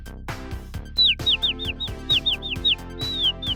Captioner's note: Goldie tweeting